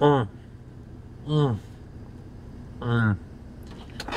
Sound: groaning

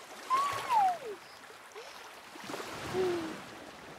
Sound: Moana coos

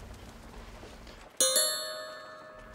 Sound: tink bells

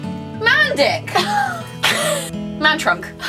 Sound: laughs

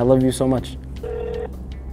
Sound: dial tone rings

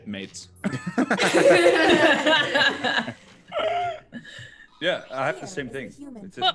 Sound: laugh

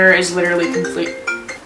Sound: phone rings

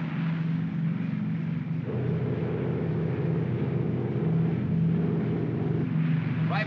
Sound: aircraft rumbles

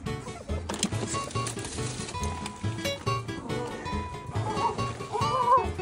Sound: bouncy trotting

